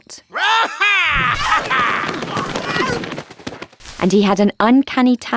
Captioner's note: Saul roaring; punches landing